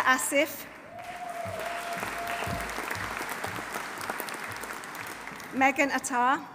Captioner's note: audience applauding; audience cheering